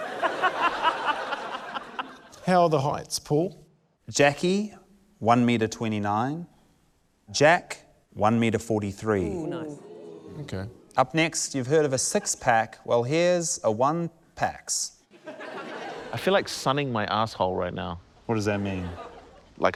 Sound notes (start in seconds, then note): 0.0 laughter; 9.2 crowd ooh's; 15.1 laughter